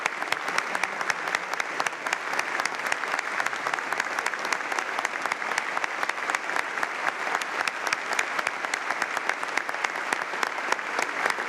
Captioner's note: applause